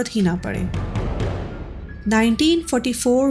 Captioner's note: banging sound